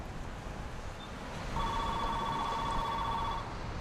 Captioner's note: phone ringing